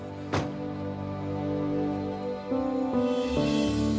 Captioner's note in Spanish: sonido al cerrar la puerta